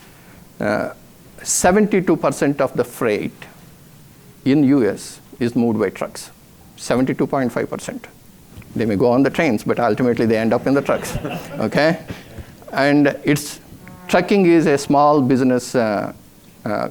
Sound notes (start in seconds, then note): 9.7 audience laughs